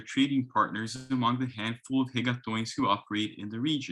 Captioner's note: speaks in foreign language